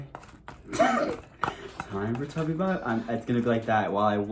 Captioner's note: laughs